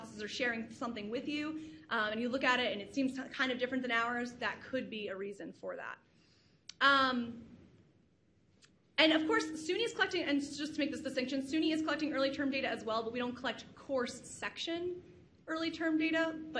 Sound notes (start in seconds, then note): none